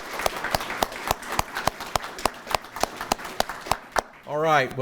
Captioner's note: everyone applauding